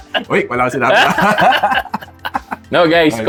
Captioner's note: laughs